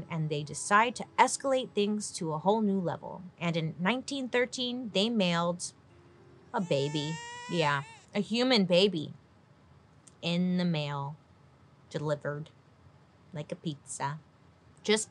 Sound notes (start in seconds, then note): 9.1 baby crying